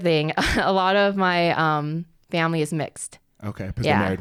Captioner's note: laughs